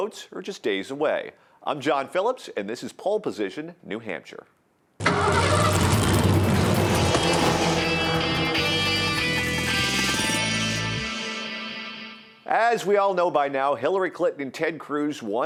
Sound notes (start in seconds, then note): 5.0 engine starting; 7.9 energetic guitar riff